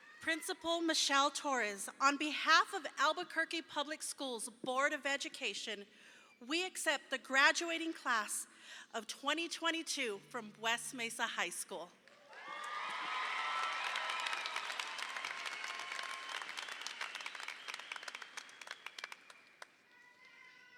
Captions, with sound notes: - Principal Michele Torres, on behalf of Albuquerque Public Schools Board of Education, we accept the graduating Class of 2022 from West Mesa High School. (audience applauds) (audience cheers)